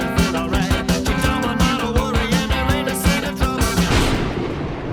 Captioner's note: thunder clap